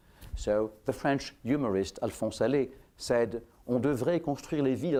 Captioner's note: french